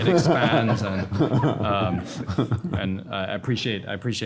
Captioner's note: panel laughing